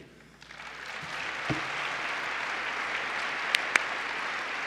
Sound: applause

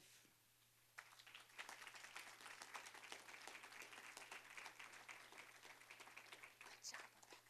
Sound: applause

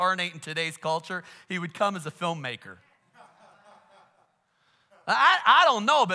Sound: congregation laughs

